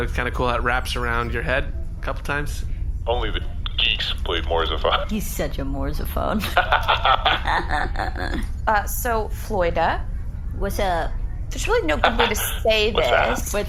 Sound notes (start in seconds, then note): 6.3 laugh